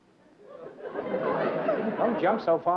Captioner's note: laughter